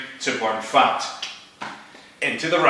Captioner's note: tsk